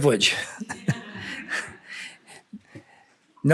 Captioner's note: laughter